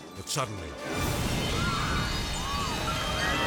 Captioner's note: edgy dramatic music; people screaming; car exploding